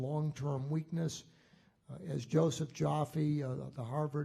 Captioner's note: none